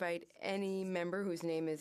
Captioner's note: speaking French